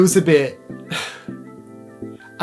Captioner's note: sigh